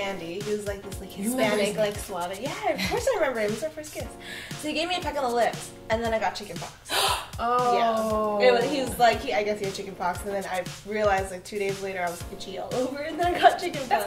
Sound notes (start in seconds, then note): 6.9 gasps